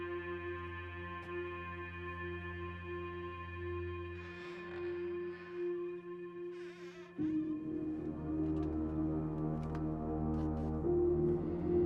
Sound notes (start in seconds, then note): 6.5 door creaking open; 8.3 melodic haunting music